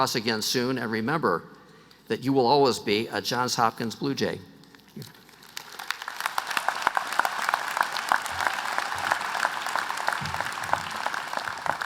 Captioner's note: applause